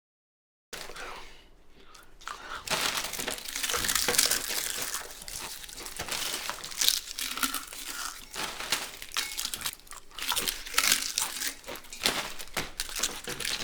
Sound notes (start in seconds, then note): 1.7 obnoxious chewing and crunching sounds